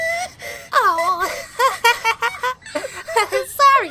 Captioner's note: embarrased laughter